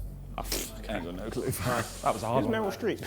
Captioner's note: scoffs